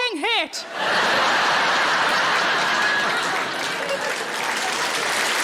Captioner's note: audience laughing and applauding